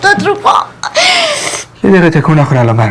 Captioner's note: crying